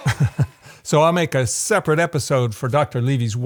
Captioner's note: laughs